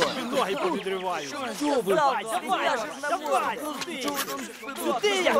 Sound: fighting sounds

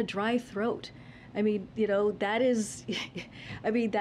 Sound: laughs

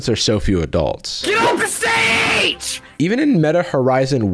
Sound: child yelling

